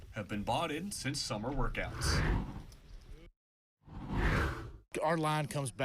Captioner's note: air whooshes